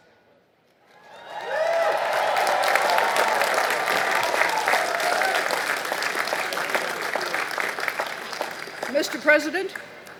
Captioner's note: applause